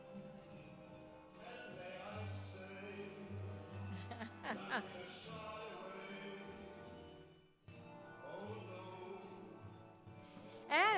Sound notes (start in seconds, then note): 0.0 lively music; 3.9 laughing